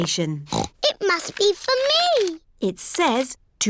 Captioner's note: snorts